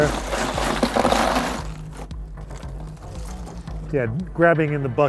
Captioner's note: ice rattling in cooler